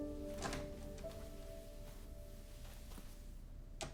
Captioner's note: door clicking